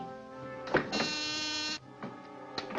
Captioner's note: intercom buzzes